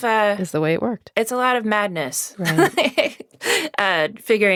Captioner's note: laughs